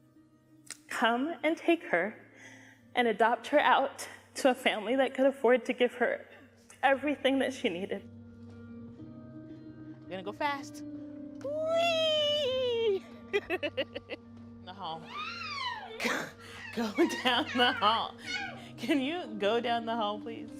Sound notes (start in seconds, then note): 13.2 laughs; 15.0 vocalizes